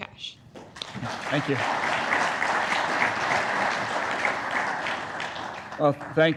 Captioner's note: audience applauds